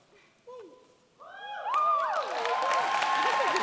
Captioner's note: cheers, applause